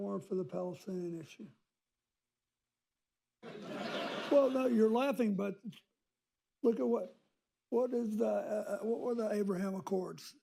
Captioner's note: laughter